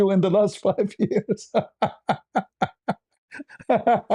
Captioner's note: ketawa